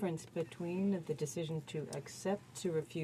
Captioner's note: speaking French